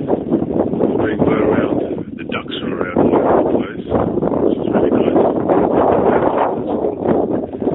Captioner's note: wind noise